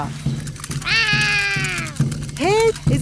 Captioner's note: roaring